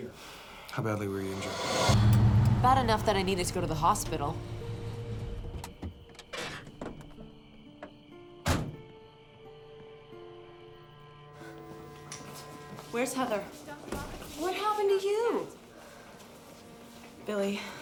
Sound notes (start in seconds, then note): 4.8 engine shuts off; 6.2 crickets chirping